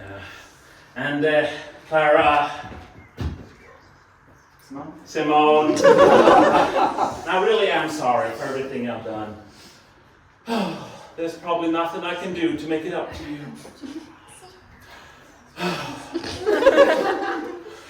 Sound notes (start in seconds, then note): 10.4 sigh; 15.5 dramatic sigh